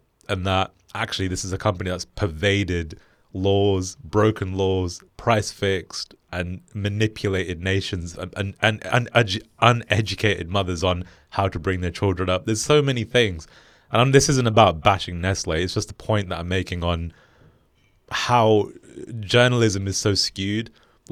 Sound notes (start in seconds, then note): none